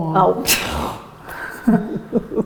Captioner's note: scoffs; laughter